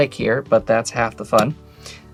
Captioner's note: card slaps